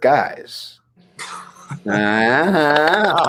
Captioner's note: Liam laughs